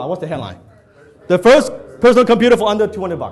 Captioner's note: audience mumbles